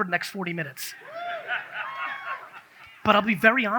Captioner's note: audience cheers